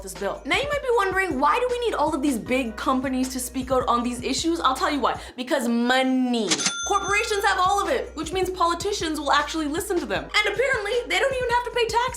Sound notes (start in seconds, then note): 6.5 cash register dings